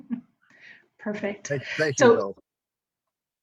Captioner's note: laughs